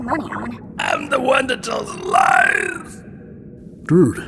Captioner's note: bizarre raspy voice